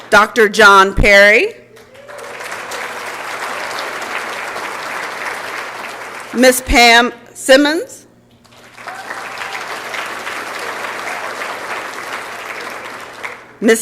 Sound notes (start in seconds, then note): 1.6 applause and Cheering; 8.4 applause and Cheering